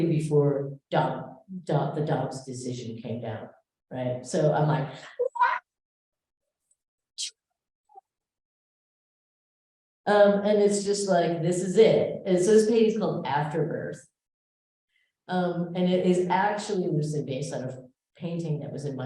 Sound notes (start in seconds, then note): 4.9 shouting